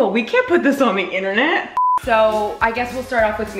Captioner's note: beep